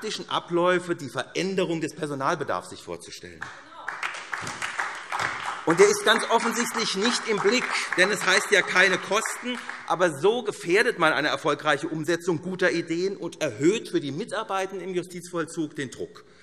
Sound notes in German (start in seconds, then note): 3.4 Beifall SPD